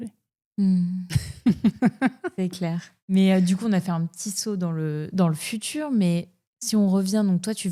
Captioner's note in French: rires